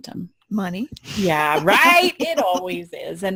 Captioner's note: laughing